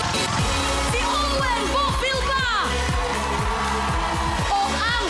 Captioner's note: crowd cheering